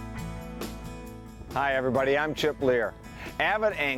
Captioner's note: voiceover